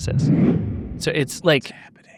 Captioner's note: audio whooshes